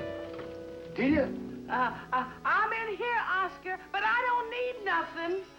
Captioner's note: stammering